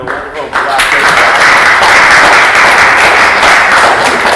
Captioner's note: applause